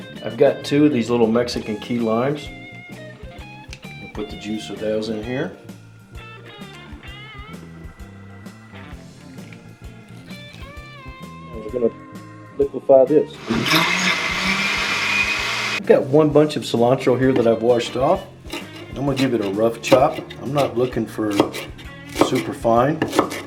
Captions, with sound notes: I've two of these little mexican key limes. Put the juice of those in here. We're going to liquify this. (blender pulsing) I've got one bunch of cilantro here, that I've washed off. I'm going to give it a rough chop. I'm not looking for super fine.